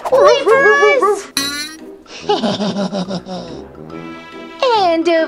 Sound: comical bouncing; sinister laughing

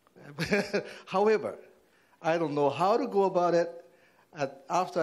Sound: laughing

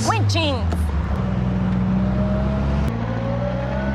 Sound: engine rumbling

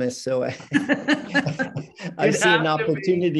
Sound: both laughing

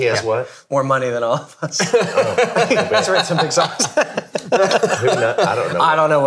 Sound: laughs

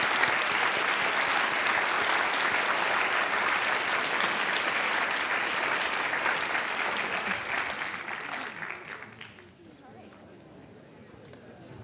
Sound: applause

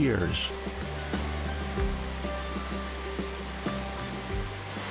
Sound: rushing water

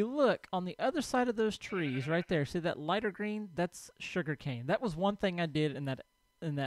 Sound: sheep bleats

